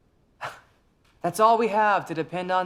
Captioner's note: scoffs